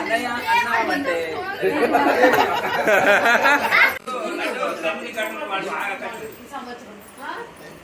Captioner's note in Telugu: నవ్వు